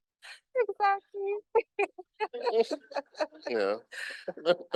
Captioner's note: laughing